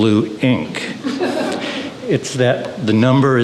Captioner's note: audience chuckling